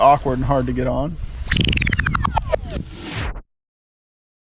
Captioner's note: reel stopping sound